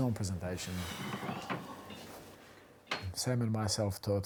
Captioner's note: John sighs